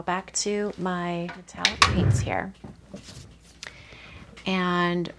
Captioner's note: objects knocking